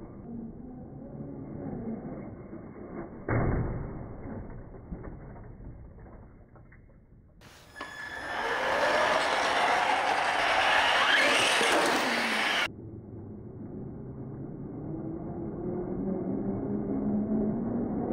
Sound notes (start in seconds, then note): 0.7 slow motion whirring; 10.5 whirring; 13.0 slow motion whirring